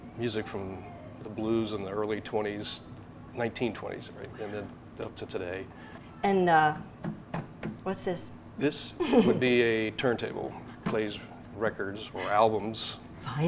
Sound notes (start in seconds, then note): 6.8 tapping